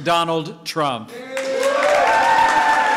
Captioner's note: applause